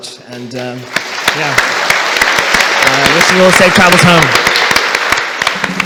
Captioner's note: applause